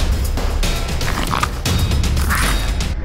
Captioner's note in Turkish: Tilki Sesi